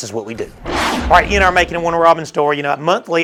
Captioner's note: intense swoosh